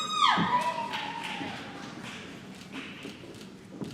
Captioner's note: applause